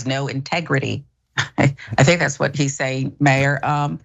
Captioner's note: laugh